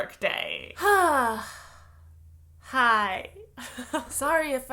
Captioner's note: sigh